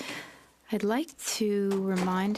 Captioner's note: speaking French